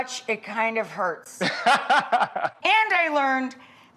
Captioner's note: doctor laughs